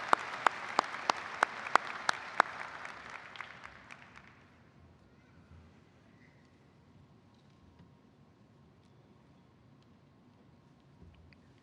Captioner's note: applause